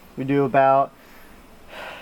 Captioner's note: none